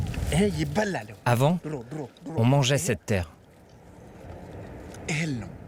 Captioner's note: speaking foreign language